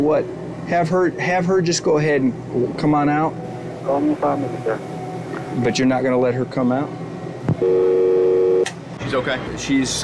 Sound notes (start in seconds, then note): 7.6 dial tone